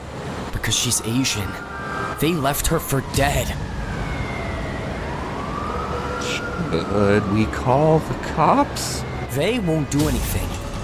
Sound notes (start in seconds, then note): 4.2 siren blaring; 9.9 dramatic music